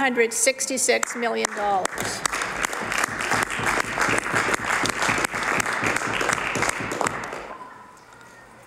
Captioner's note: some Applause